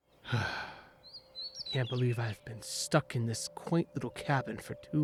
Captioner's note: sigh